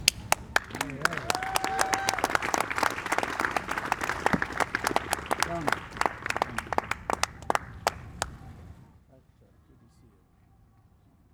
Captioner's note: applause